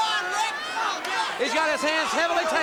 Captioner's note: crowd cheering